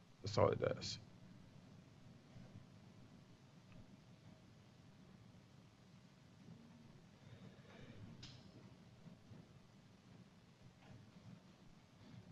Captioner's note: pause